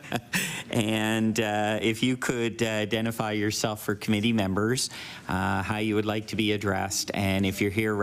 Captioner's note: laughter